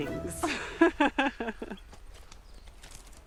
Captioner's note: laughs